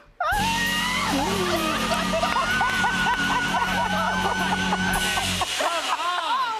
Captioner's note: laughs